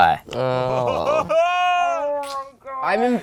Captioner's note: chuckles